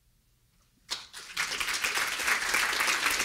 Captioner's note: applause